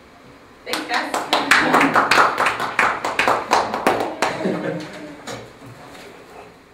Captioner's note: audience applause